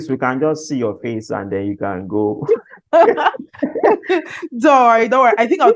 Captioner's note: laughs